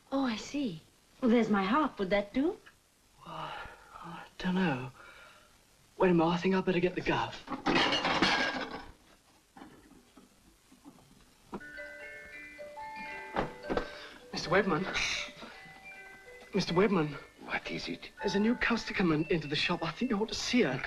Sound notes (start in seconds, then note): 7.5 dishes clatter; 11.7 music box twinkling